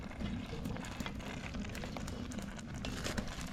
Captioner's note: sizzling